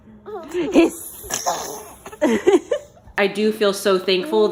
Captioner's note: laughs